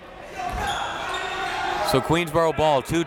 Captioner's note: crowd members shouting